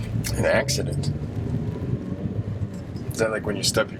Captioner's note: engine revving